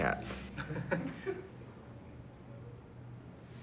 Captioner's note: laughter